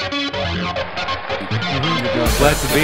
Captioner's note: crowd cheering